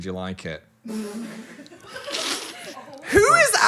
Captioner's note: crew laughing